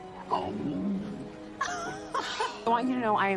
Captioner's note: laughing